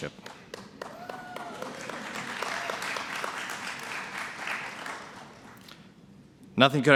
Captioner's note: cheering and Applause